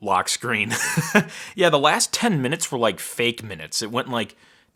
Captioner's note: laughs